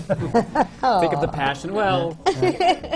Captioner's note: laughter